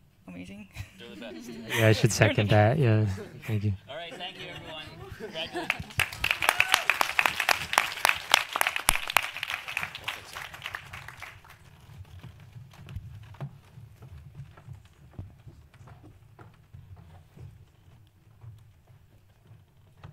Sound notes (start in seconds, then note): 5.3 audience applauds